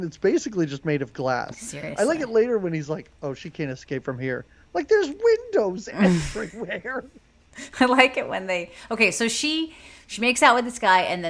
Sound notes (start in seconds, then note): 6.0 laughs